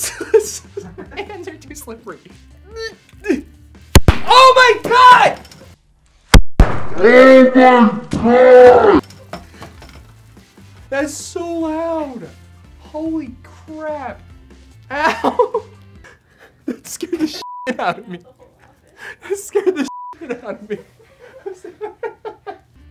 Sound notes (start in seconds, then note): 3.2 grunts; 3.9 confetti cannon explodes; 5.9 confetti cannon explodes in slow motion